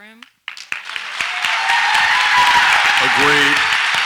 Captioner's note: audience applauds and cheers